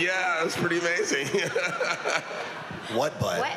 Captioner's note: laughs